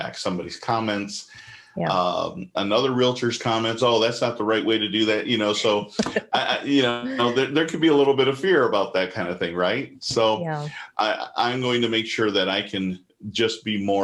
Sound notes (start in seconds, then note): 6.0 laughs